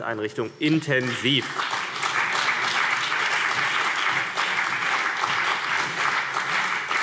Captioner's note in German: Beifall CDU und BÜNDNIS 90/DIE GRÜNEN